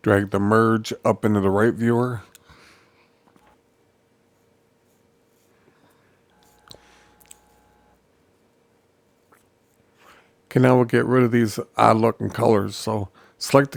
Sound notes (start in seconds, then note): 3.3 silence